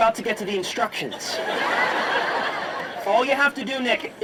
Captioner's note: audience laughing